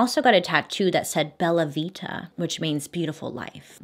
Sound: speaking in foreign language

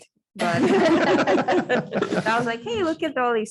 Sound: audience laughing

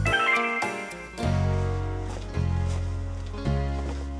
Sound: door beeps

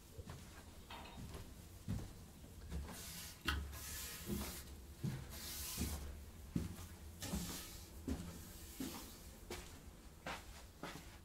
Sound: footsteps, brushing, scraping

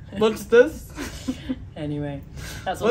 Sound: laughs

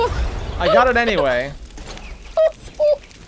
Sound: laughs

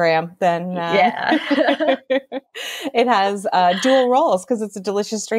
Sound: laughs

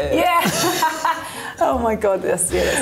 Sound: laughs

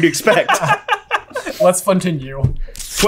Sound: laugh

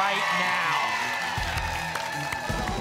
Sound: applause and cheering

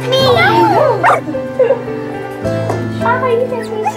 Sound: puppy barks; Amber laughs

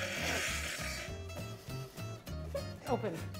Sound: plate sliding on table

